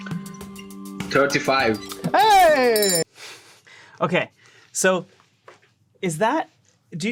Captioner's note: bell rings